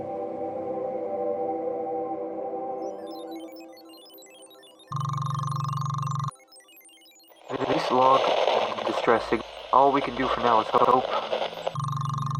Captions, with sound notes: [Broken audio] T-this log... d-distress signa- all we can do for now is h-h-hope.